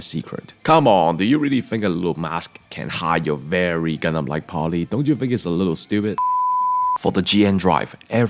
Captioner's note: beep